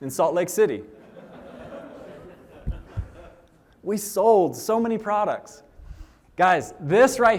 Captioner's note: laughter